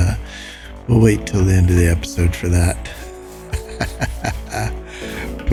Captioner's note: laughs